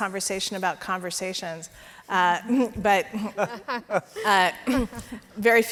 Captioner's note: laughing